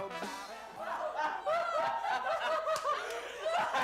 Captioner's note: laughter